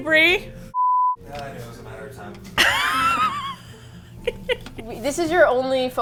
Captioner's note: laughs